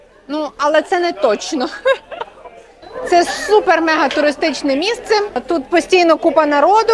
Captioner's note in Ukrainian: сміх